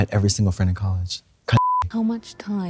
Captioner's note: beep